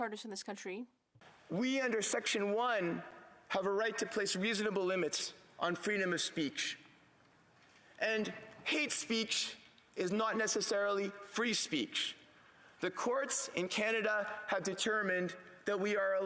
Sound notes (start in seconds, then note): 1.1 speaking French